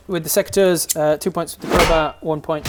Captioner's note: smack